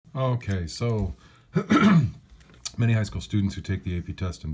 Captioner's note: cough